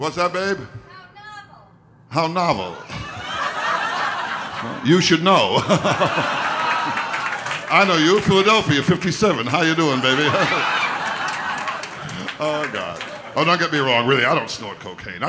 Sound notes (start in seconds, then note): 3.3 audience laughter; 7.0 laughs